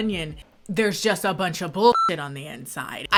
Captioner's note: beep